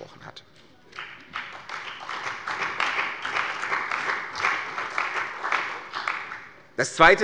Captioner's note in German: Beifall bei der CDU und dem BÜNDNIS 90/DIE GRÜNEN